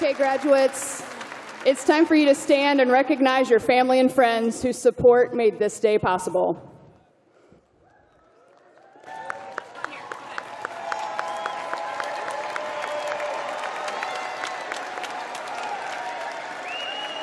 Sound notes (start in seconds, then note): 1.8 cheers and applause